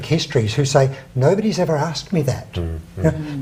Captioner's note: laughs